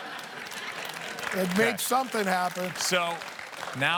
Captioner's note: laughter and applause